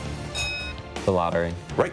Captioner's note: bell rings